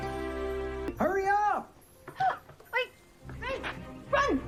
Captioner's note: gasps